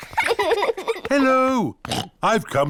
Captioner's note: oinks